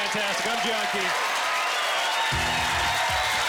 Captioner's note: cheering and applauding